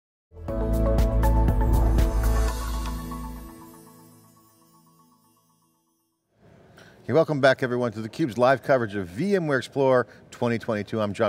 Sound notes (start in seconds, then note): 0.4 upbeat music; 2.1 ethereal twinkling